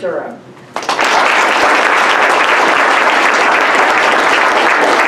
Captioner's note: applause